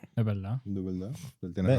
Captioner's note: speaking In Foreign Language